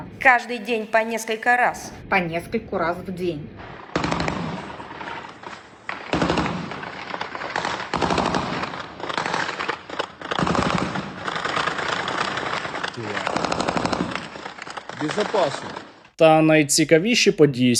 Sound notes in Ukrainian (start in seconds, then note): 3.7 автоматні черги